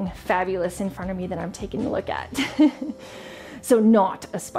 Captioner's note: laughs